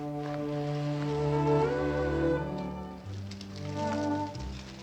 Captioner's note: leaves rustle; calm orchestral music